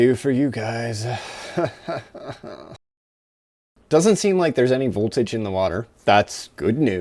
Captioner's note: nervous laughter